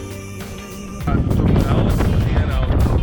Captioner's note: very strong wind